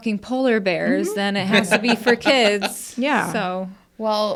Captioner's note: laughs